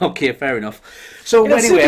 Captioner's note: laughing